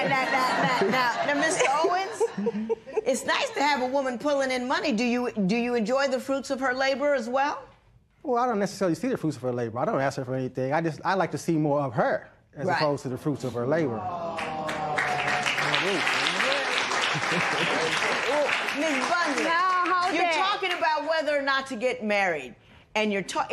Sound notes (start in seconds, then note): 0.0 laughter; 13.9 spectators "Aww"; 14.3 applause